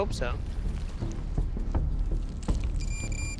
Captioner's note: fast beeping